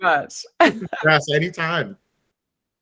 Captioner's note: laughs